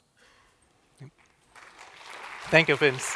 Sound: applause

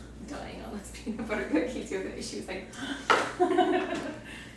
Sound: laughing

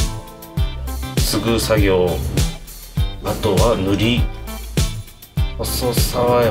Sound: speaking in foreign language

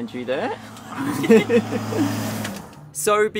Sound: both laughing

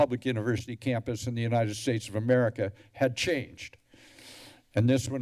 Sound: deep breath

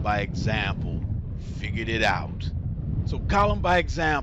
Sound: blazing fire

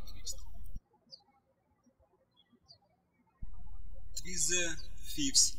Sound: birds chirping

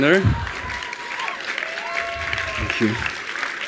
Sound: attendees applauding

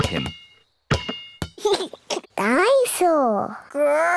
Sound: giggles

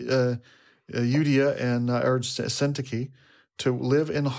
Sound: speaking foreign language

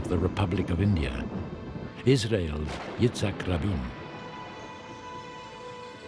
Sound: lightening crackling; thunder roaring

